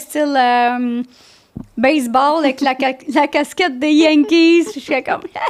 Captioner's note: in french